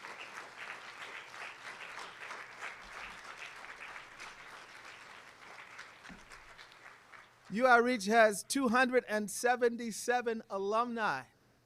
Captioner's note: applause